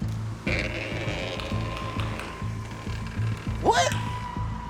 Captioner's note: door creaking